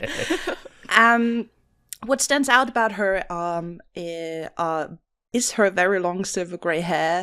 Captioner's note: laughter